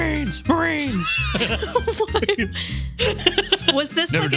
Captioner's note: laughing